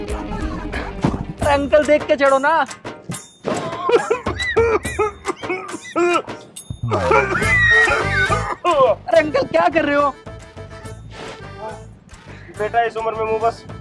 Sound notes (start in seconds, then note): 3.6 coughing